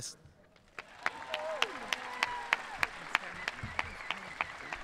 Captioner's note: audience cheering